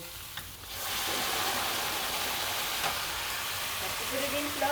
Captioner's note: pan sizzling